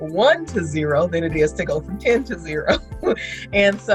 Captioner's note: laughs